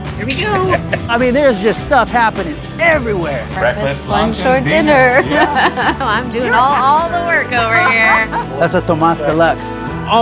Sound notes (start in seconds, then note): 4.8 laughs